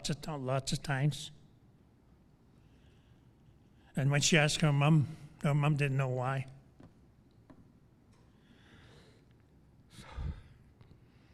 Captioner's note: sigh